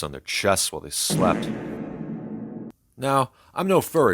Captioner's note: SFX: Bass Boosted Fart